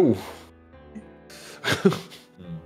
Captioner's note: laughs